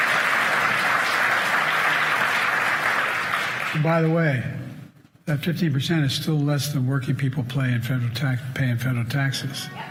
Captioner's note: cheers and applause